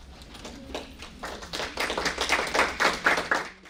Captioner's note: applause